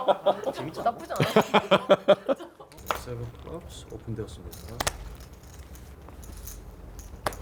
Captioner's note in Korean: 웃음